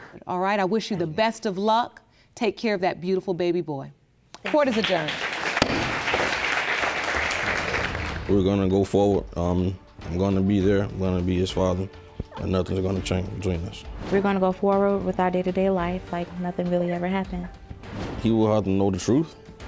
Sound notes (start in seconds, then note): 4.4 audience applauds; 5.6 gavel bangs